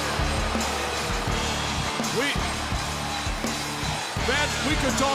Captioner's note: crowd cheering